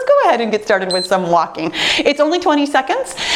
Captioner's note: timer beeps